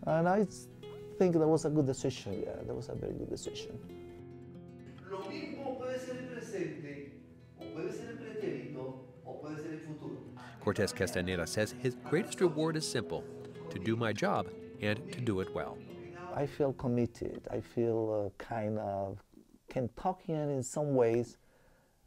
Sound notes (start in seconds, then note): 4.8 speaking spanish